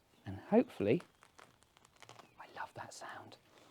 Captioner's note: gentle tearing; whispers